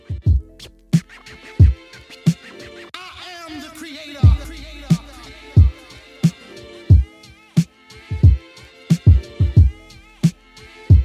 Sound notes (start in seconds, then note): 0.2 funky music; 0.9 record scratching; 5.5 funky music; 5.5 stuttered vocalization